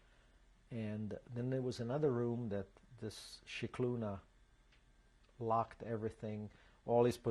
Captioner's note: non-english